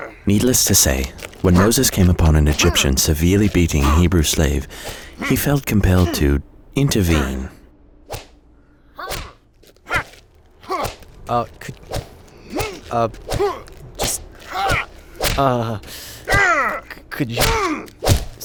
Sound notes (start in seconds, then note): 8.1 whip whooshing